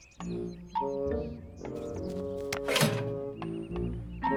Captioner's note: mailbox thuds